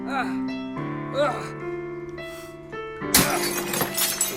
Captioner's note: man groaning